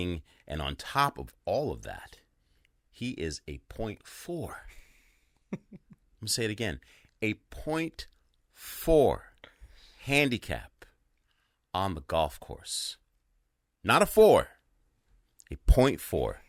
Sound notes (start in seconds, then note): 5.4 chuckling